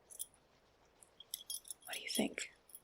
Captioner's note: rings clicking